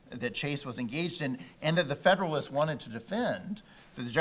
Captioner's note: none